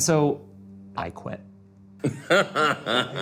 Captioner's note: laughing